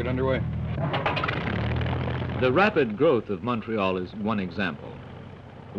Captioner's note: engine sputters to life